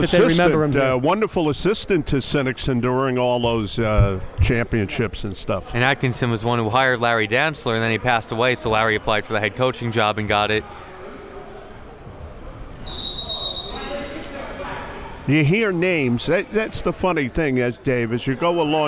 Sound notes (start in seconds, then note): 12.7 whistle blows